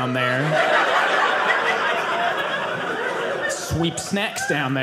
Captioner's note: audience laughing